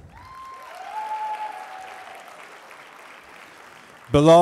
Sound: applause

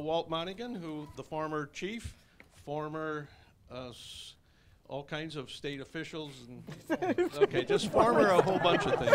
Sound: laughter

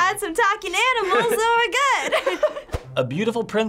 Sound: both laugh

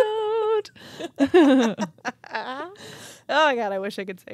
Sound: chuckling

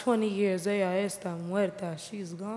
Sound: speaking in foreign language

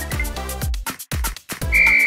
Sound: whistle

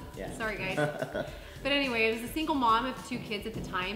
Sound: laughing

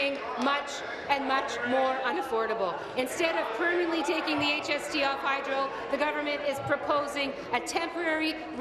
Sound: applause

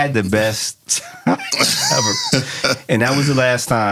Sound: laughing

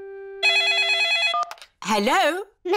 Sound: phone rings

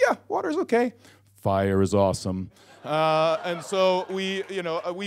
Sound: audience laughs

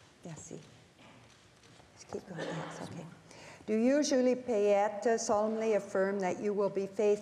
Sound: speaking French

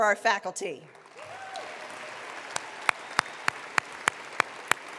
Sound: attendees applauding

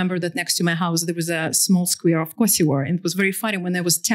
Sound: non-english

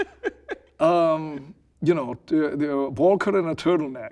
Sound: laughing

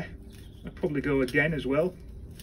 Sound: Tulbaghias crunching

